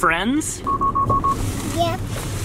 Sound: beeping

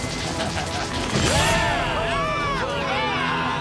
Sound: laughing; cheering

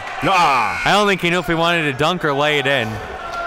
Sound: applauding; buzzer dings

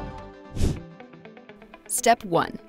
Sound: air whooshes

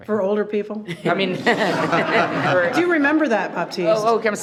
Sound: everyone laughs

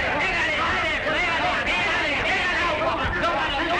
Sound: yelling

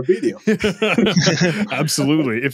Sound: group laughs

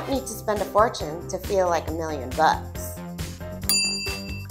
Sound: ding

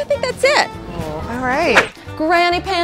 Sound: swooshing

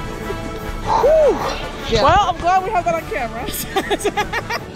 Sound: exhaling

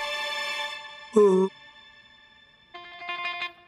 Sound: yawns

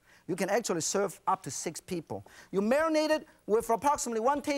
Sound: none

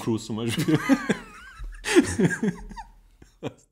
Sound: laughs

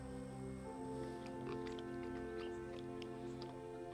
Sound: pig snorting

